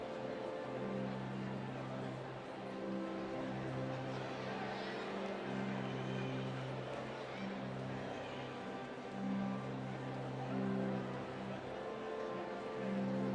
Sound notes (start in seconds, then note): 0.1 cheering; 4.1 applause; 8.6 soft music